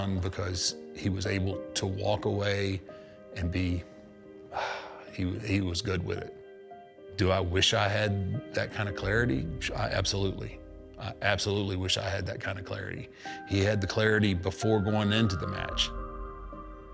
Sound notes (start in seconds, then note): 4.5 sighs